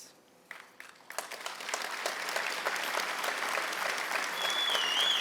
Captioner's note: audience clapping